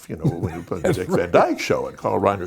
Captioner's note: Dick Van Dyke laughing